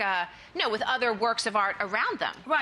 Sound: none

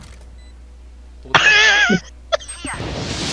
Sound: cute noises

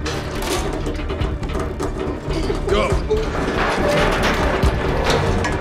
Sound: metal creaking

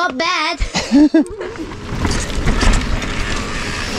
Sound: laughs

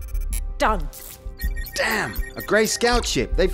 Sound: alert

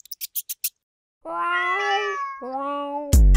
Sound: group Meowing

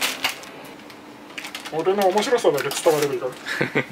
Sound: laughs

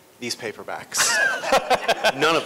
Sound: laughter

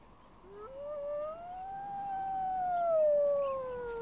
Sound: howling

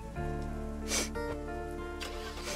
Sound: sniffs; engine starts

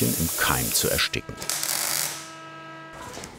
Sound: crackling noises

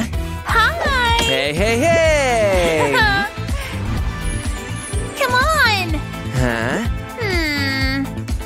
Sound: making happy sounds

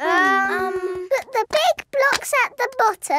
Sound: children hesitating

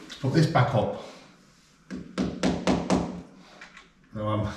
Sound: banging

